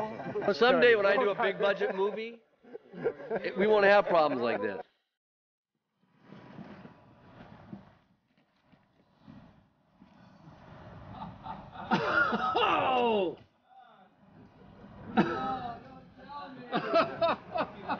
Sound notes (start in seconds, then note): 12.5 exclaiming; 16.6 laughing